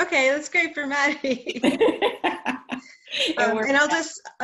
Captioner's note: laughter